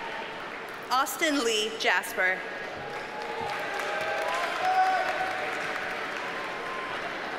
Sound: audience cheers and applauds

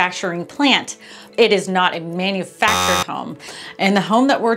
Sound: buzzer hums

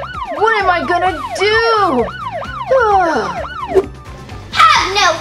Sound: sighs

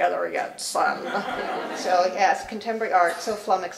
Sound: laugh

